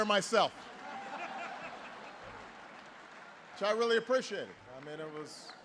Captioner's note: laughter